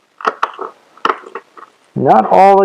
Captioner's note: scissors cut grass